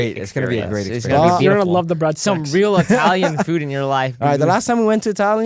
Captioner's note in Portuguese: risos